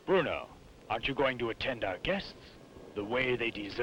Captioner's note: none